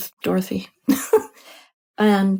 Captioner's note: laughs lightly